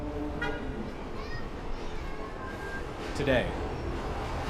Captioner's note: traffic humming